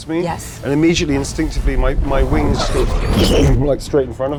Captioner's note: imitates whoosh